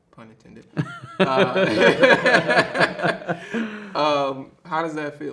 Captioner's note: both laughing